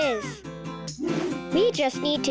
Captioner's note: lively music; air whooshing